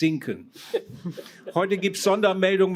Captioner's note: laughter